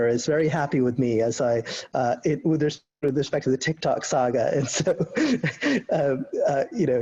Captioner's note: laughing